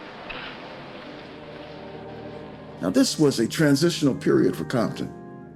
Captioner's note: none